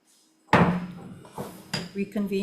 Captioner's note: gavel taps